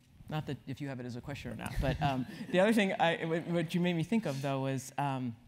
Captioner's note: laugh